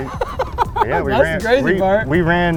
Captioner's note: laughing